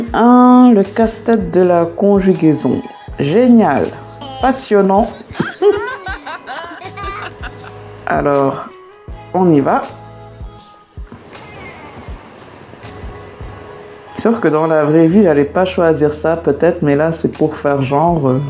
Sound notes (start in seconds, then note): 4.8 laughs